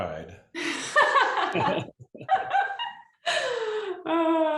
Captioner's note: laughter